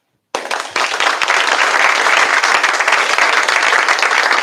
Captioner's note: applause